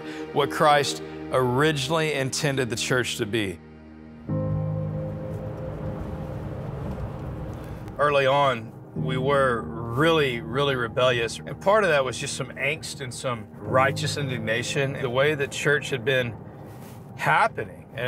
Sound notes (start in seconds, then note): 4.5 gentle music; 5.1 air whooshing